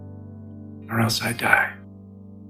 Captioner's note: voiceover